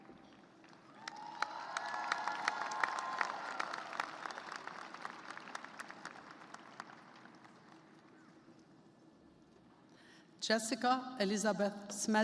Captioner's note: cheers and applause